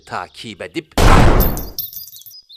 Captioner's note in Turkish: Silah patlama sesi